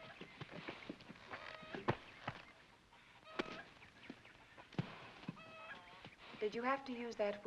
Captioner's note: chickens cluck